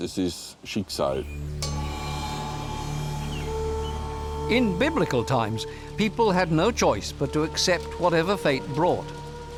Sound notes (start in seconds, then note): 1.1 chimes; 1.5 gong